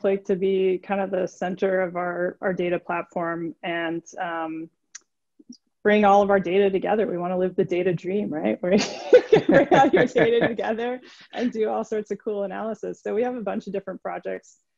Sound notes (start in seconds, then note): 8.8 laughing